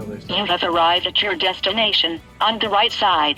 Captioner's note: automated Voice